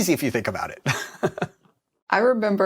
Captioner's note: laughs